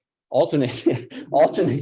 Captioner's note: laughs